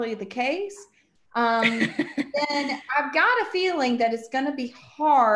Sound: laughs

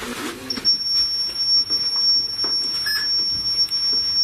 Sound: loud beeping

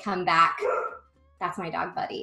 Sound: barking

